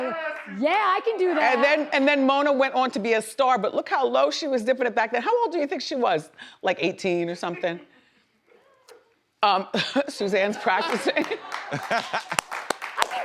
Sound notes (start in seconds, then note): 7.4 woman laughs; 10.8 audience applauds; 11.5 man laughs